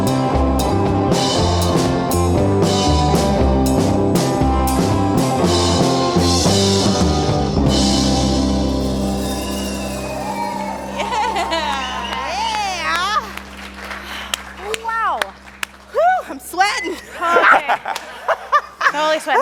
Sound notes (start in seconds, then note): 9.9 audience claps and cheers; 17.0 laugh